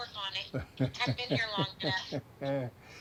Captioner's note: laughs